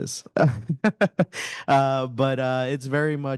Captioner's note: panelist laughing